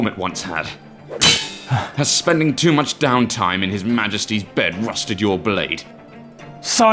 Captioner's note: swords clash